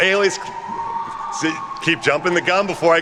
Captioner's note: students cheering